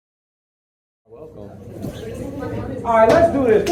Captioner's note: audience chatters